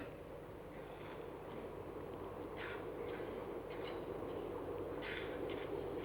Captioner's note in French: Bruit de train